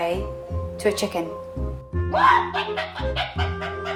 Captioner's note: chicken squawking noises